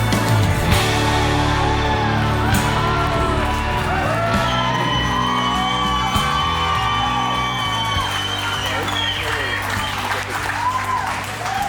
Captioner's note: crowd cheers